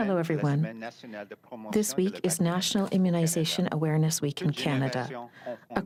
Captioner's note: speaking french